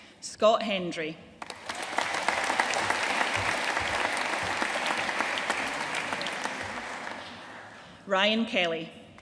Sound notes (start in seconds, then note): 1.4 audience applauding